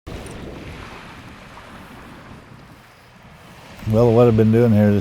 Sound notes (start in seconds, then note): 0.0 wind and waves